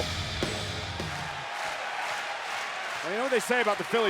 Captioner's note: crowd cheering